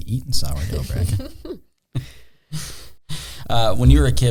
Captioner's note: laughing